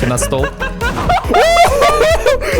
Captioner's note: laughter